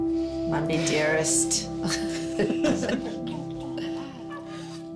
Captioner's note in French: tout en riant